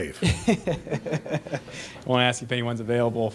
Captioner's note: laughing